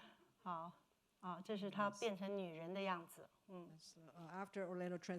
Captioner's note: speaking Mandarin